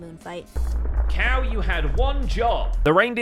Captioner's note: explosion